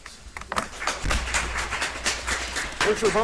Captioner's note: audience applauds